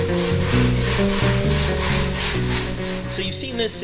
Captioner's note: sandpaper scraping